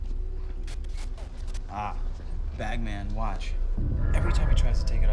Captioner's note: static crackles